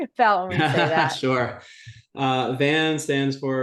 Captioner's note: laughs